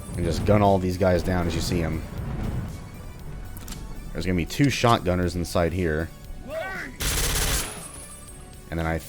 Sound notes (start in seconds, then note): 7.0 MAC-10 fire